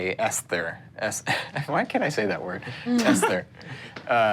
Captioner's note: laughs